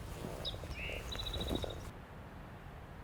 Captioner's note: birds chirping; birds continue chirping